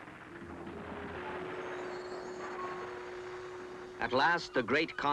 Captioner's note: suspenseful music; explosions